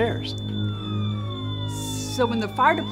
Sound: sirens wail

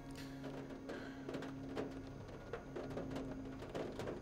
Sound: rain falling

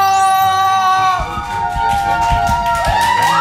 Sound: pounding

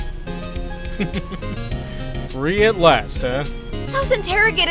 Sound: chuckles

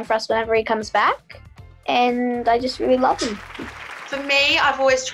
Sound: applause

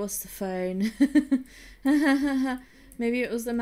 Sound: weak laughter

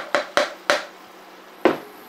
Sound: chopping

